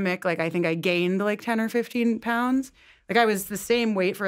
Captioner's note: none